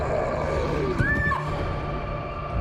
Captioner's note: harper screams